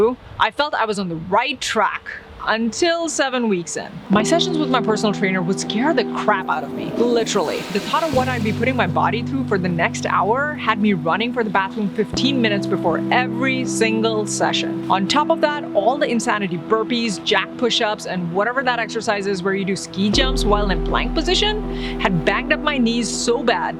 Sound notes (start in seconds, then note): 6.5 toilet flushing